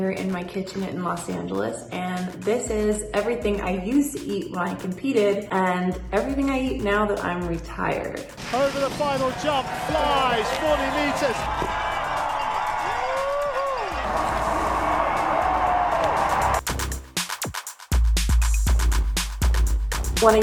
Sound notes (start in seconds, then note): 13.3 crowd cheering; 16.2 upbeat techno music